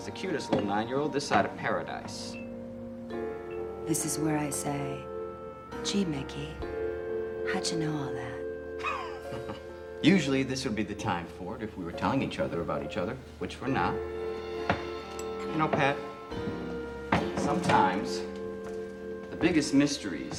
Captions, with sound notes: is the cutest little 9-year-old this side of Paradise. - This is where I say, gee Mickey, how'd you know all that? - (laughs) Usually this would be the time for it, if we were telling each other about each other, which we're not. You know Pat, sometimes the biggest mysteries